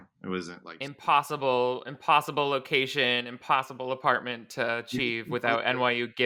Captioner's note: none